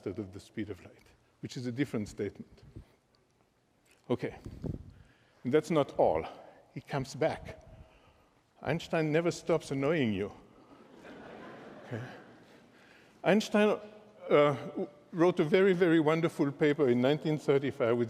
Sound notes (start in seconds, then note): 10.6 laughter